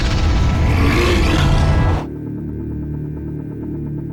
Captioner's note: snake growls